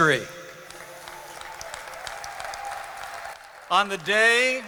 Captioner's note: audience clapping